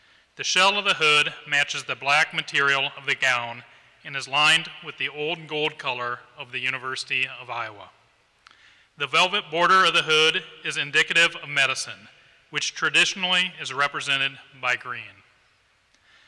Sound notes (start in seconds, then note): none